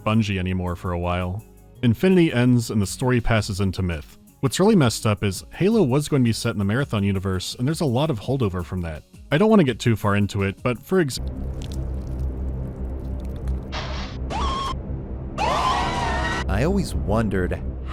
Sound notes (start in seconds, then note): 13.7 pshh; 15.4 scream